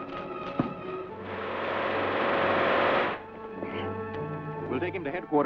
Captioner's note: cosmic vibrator hums